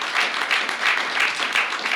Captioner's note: applause